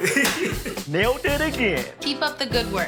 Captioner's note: laughs